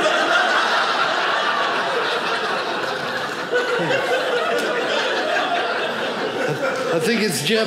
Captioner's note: audience laughing